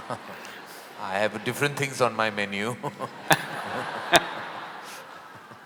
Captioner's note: laughter; laughter